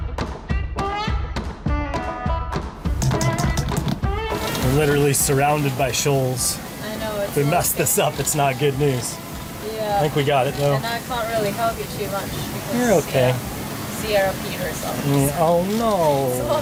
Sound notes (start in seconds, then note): 4.4 machine crackling